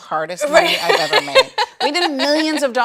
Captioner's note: laughs